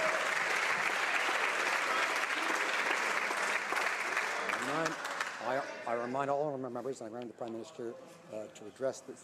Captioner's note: some Applause